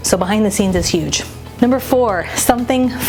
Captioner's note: air whooshing